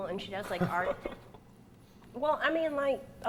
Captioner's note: Cole laughs